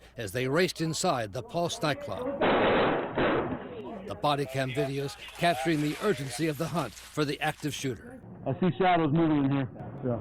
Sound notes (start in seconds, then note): 2.4 gunshots